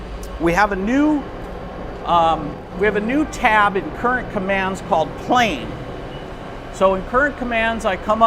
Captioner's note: plane